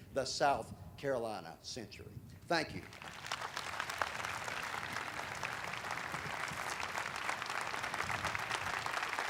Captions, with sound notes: The South Carolina Century. Thank you. [audience applauding]